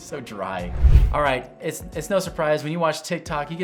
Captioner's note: transition whooshing